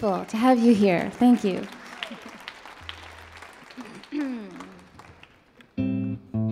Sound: audience applauds

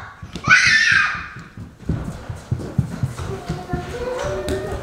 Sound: girls screaming

